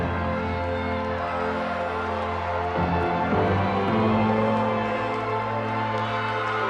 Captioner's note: motivational instrumental music continues; crowd applauding; crowd cheering